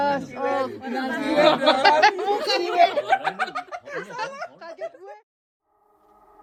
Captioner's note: laughs